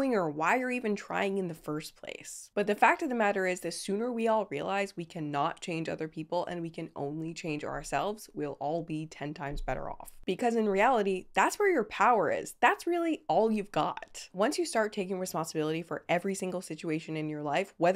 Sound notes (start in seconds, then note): none